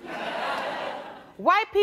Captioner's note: audience laughing